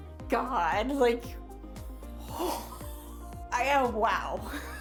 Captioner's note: gasping